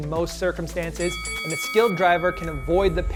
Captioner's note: ringing bell